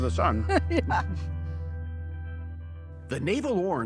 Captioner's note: laughs